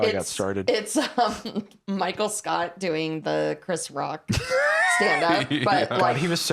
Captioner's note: laughs